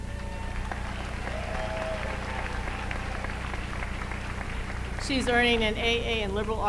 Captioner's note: applause